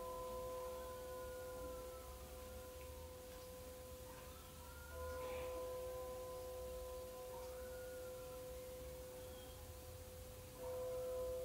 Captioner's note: church bell